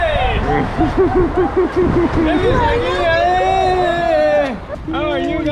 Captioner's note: excitement